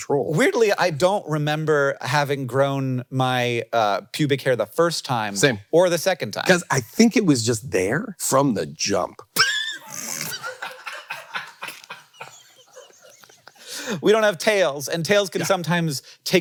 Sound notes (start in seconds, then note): 9.3 crew laughing; 9.4 Hank laughing